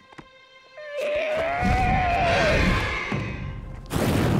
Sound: squawking

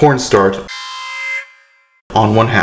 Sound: alarm sound

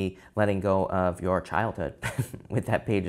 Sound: laughs

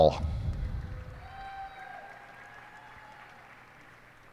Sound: cheers and applause

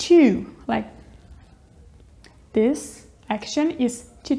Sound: chewing

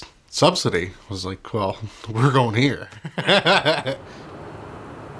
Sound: laughter

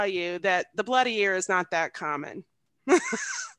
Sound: laughs

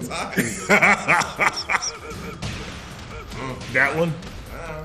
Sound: laugh

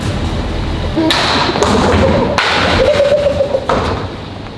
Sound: ball clattering; lads giggling nervously

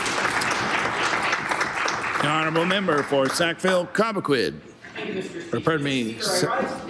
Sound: applause

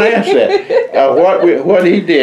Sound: laughter

